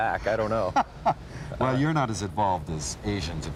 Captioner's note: laughs